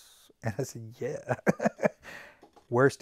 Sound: laughs

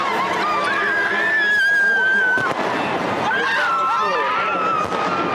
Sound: screaming

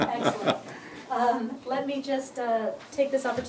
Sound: laughter

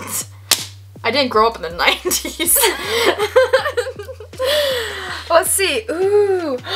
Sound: laughs

